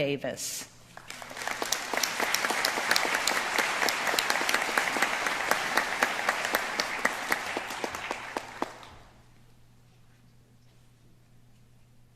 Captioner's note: applause